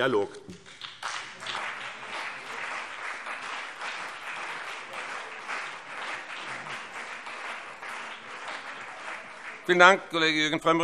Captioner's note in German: Beifall BÜNDNIS 90/DIE GRÜNEN und CDU